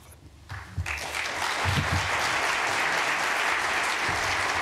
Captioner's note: applause